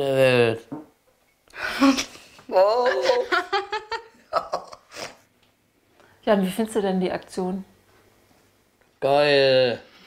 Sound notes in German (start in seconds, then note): 2.5 beide lachen